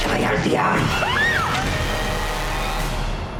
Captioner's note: speaking spanish; screams